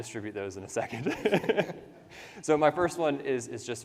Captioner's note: laughs